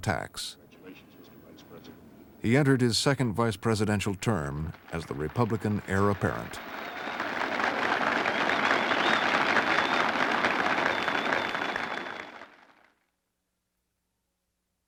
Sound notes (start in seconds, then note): 8.4 applause and whistling